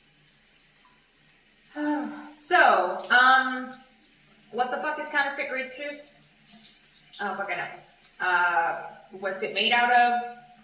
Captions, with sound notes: [SIGHS] SO UM WHAT THE FUCK IS COUNTERFEIT GRAPE JUICE I DON'T FUCKING KNOW UH WHAT'S IT MADE OUT OF